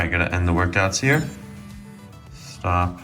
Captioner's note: watch chimes